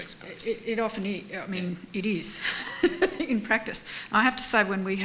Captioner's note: laughs